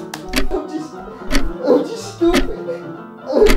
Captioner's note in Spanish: llorando